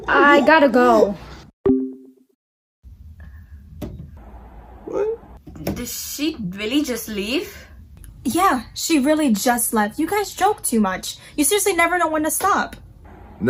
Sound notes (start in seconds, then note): 1.6 soft tone